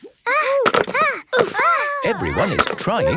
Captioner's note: all grunting